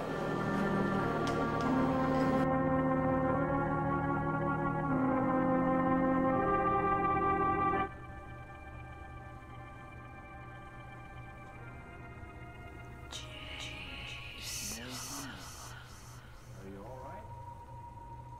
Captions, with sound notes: ? dramatic instrumental music? - [Whispering Voice] Jason.